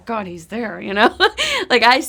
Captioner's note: laughs